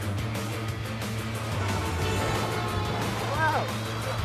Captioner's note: taxicab horn honks